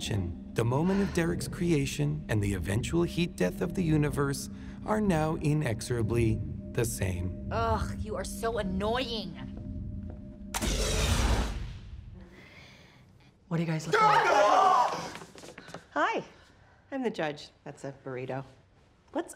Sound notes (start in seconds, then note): 10.6 whooshing; 14.0 all shrieking in surprise